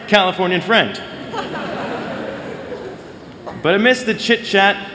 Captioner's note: laughter